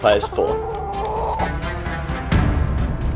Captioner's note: chicken squawking